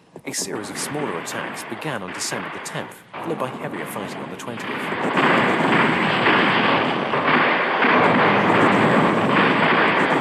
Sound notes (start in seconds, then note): 5.5 bombs exploding